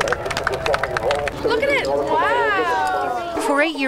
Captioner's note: cheering and applause